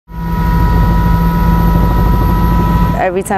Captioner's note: helicopter flying